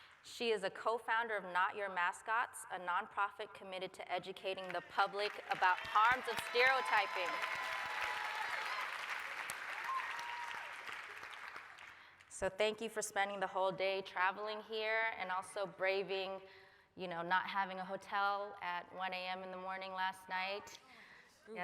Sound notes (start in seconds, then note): 7.3 applause, cheering